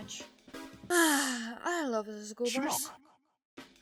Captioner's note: sigh